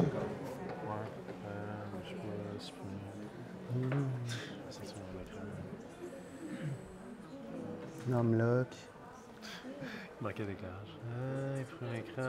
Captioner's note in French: discussions